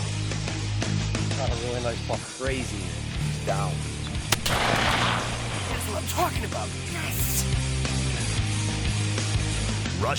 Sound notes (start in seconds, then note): 4.3 gun firing; 7.9 upbeat rock music